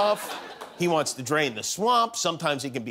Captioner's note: laughter